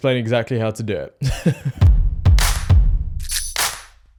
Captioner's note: laughs; upbeat music